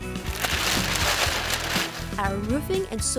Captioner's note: paper tearing